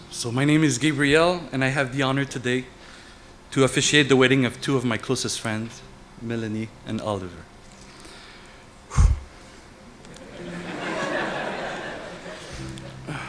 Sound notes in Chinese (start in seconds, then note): 8.9 叹气; 10.1 笑声